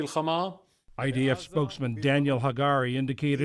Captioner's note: voice-over